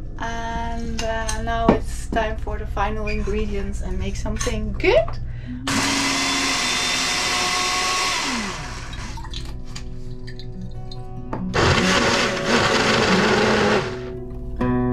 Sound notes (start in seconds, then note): 5.6 blender whirring; 12.4 soft music